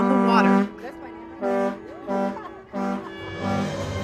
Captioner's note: horn blasts from boats